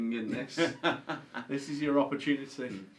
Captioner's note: laughs